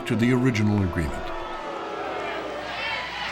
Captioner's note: booing in audience